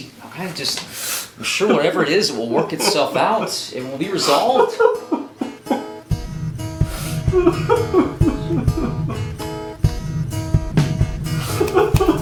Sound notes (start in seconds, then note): 7.2 Larry crying; 10.3 light music